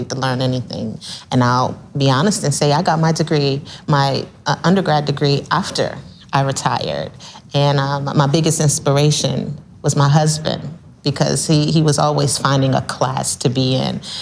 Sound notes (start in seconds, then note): none